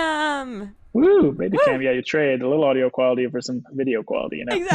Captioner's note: cheers